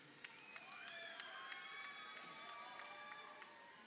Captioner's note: crowd cheering